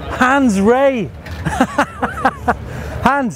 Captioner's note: laughing